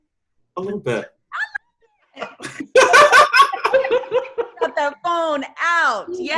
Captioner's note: all loudly laughing